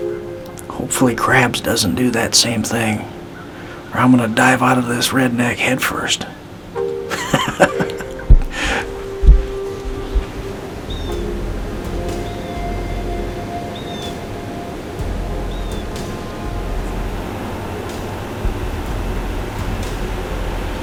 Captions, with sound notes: Hopefully, Crabs doesn't do that same thing or I'm gonna dive out of this Redneck head first. [Sound of laughing] [Dramatic music]